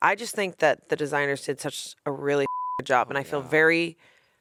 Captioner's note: beep